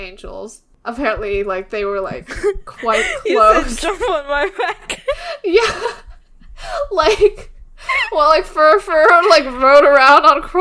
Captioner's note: laughs